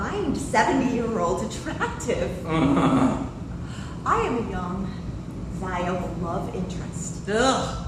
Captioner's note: sarcastic laughter